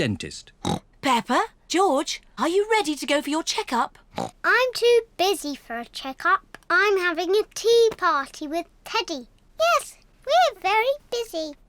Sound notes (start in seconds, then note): 0.6 oinks; 4.1 oinks